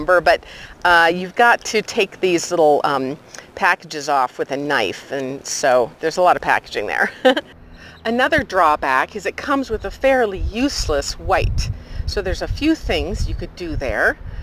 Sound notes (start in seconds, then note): 7.0 laughs